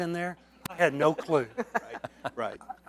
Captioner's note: laughter